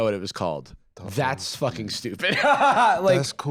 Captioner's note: laughs